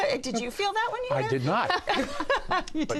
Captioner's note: all laugh